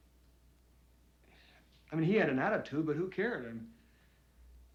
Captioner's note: exhales